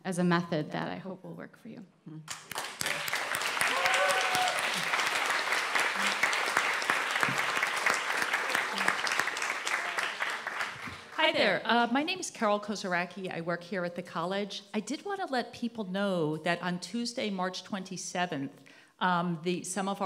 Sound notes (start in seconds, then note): 6.1 applause